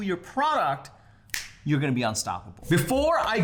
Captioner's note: fingers snapping